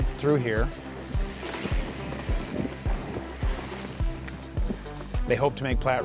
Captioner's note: bikes riding past